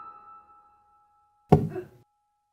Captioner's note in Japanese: ダーツの刺さる音